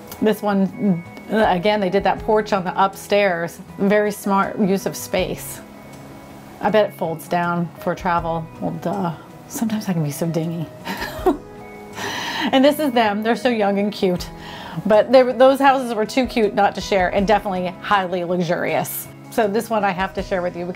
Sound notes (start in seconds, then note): 10.9 laughs